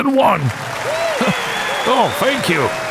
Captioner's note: crowd cheering